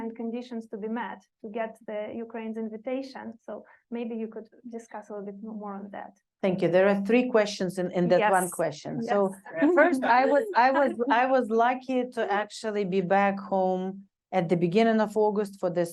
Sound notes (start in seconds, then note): 9.5 chuckling